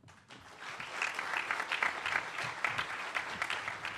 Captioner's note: audience applauds